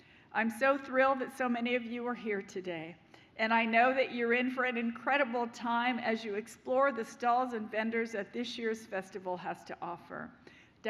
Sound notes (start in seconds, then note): none